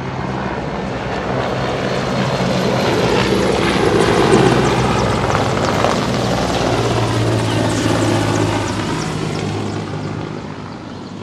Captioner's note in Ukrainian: звуки гвинтокрилів